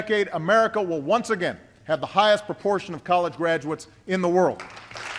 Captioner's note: applause